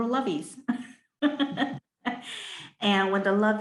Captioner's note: laughing